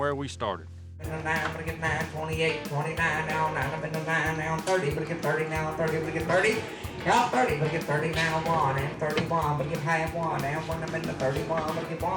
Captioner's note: auctioneer speaking